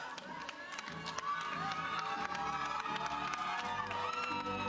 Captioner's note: audience cheering